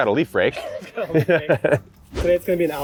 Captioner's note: both laughing